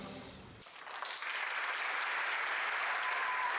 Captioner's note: applause